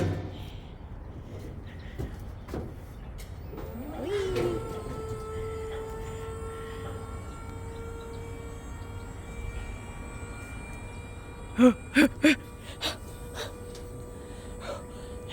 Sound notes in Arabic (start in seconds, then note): 11.6 أنفاس عميقة